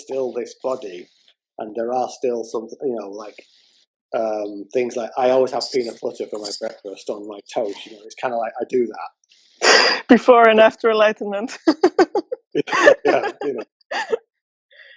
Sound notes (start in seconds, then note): 11.6 laughter